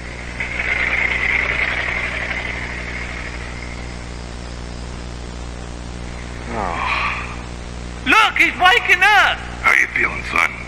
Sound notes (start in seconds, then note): 0.1 engine rumbles; 6.4 Lightning groans